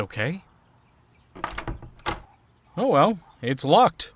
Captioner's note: doorknob rattles